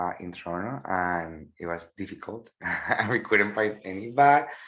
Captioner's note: laughs